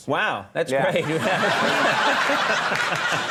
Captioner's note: audience laughing